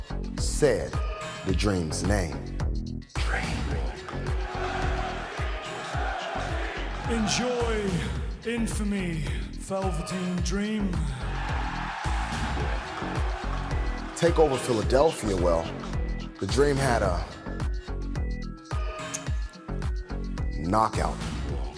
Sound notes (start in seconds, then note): 3.4 fans chanting; 11.3 cheers and applause